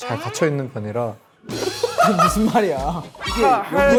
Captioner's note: burst out in laughter